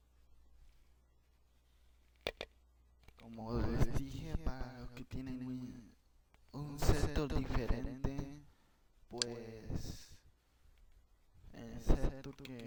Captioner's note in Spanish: Sonido del micrófono